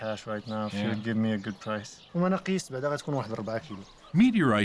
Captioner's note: speaking Arabic